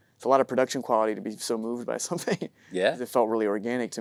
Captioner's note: chuckles